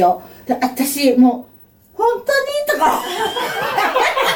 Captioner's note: laughs